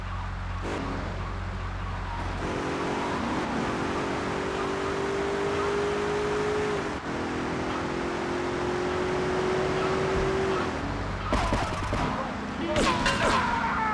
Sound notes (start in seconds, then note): 1.2 muffled yelling